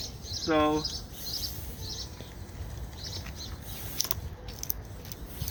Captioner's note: spray whistling